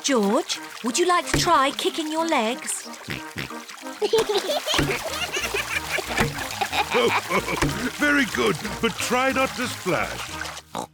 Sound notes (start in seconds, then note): 0.0 squeaks; 3.0 oinks; 4.0 both giggle; 6.3 laughs; 10.7 oinks